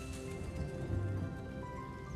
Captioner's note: thunder